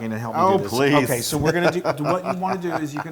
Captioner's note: laugh